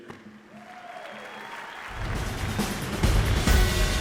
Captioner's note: applause